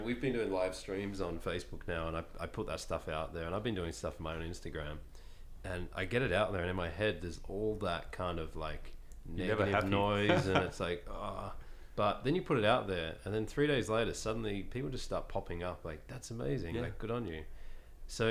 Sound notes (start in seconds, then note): 10.1 laughs; 11.7 sighs